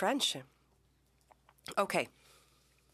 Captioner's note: speaking French